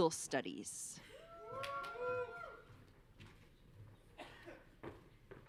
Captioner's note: audience cheering